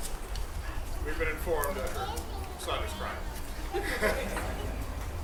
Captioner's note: laughter